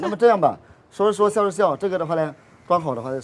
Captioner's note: laughing and talking